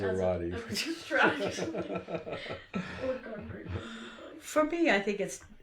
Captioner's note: laughter